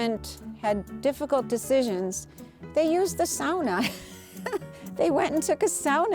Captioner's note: laughs